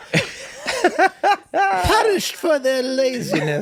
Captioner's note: group laughs